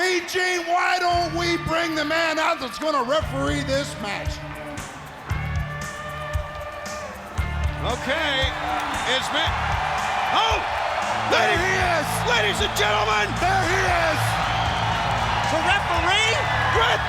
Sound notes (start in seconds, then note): 5.4 upbeat music; 9.6 audience cheers